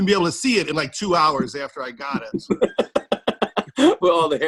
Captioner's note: laughter